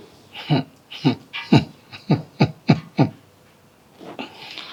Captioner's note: risas